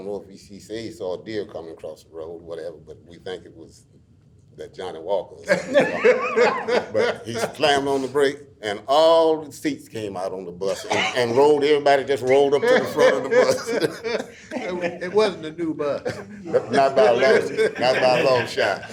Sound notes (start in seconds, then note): 5.4 all laughing; 16.5 laughs